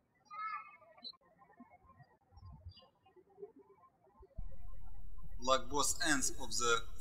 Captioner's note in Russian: птички щебечут